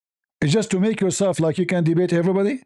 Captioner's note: none